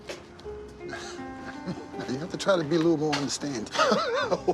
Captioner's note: chuckles